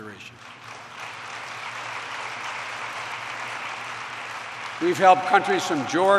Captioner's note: applause